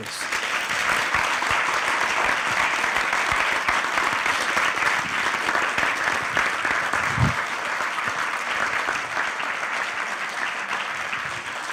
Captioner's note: applause